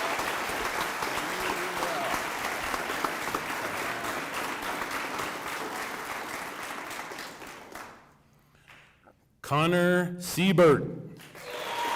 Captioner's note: applause